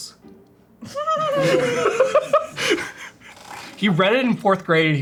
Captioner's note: everyone laughs